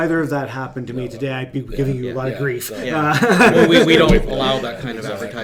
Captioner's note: laughs